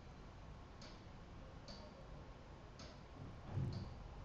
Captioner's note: clock ticking